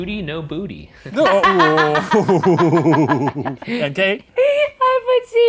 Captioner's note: laughing